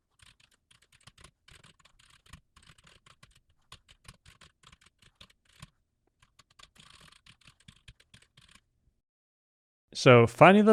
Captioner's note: typing sounds